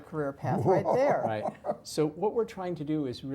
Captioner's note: laugh